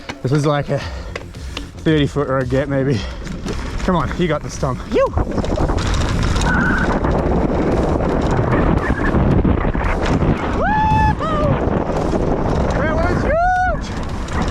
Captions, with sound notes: This is like a 30 foot or a gap maybe. Come on, you've got this Tom. Yew! (wind blowing) (bike thumping) Woo-hoo! That was huge!